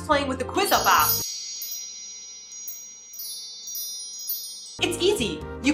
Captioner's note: magic wand noise